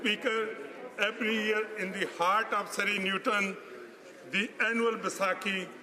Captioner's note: speaking alternate language